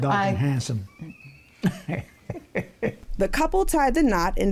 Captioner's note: laughs